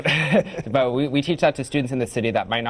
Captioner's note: laughs